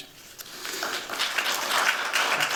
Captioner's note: applause